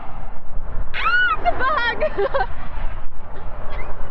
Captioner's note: screams